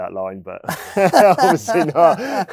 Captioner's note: laughing